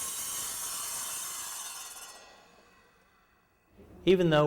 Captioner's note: saw blade spinning to a stop